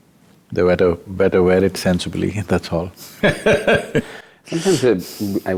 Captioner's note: laughs